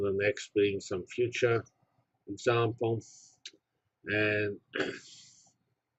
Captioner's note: cough